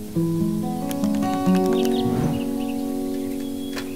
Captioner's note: birds chirping